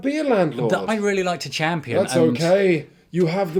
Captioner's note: breathy